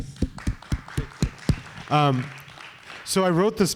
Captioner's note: applause